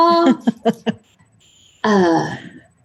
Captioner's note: laughing; sighing